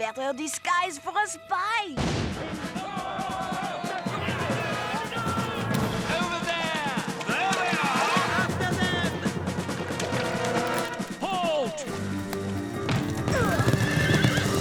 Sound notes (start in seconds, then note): 2.0 gunshot; 2.5 men yelling